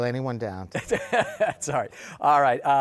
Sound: laughs

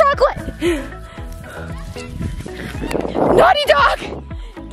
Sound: heavy breathing

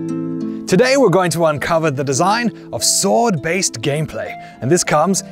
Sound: knightly voice

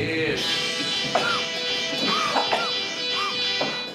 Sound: Barry coughing

